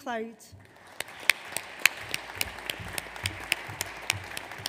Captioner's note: audience applauds